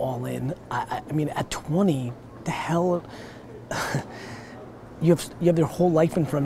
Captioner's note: chuckles